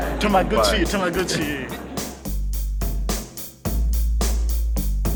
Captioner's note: speaks Japanese; upbeat music